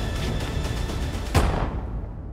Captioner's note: gunshot